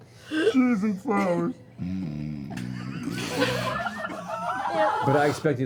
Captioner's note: snores